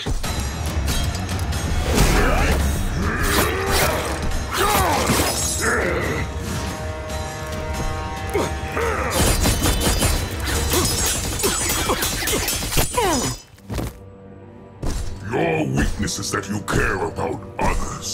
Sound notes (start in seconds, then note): 1.1 grunting; 10.2 grunting